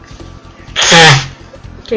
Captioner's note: deinonychus mating sound